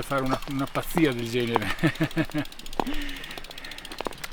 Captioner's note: laughs